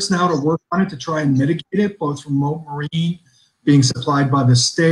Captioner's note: audio distorted